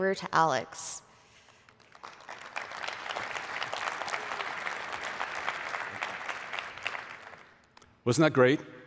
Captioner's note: applause